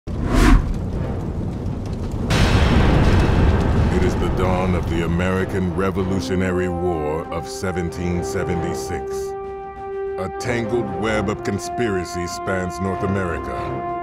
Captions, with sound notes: (swoosh) (dramatic music) It is the dawn of the American Revolutionary War of 1776. A tangled web of conspiracy spans North America.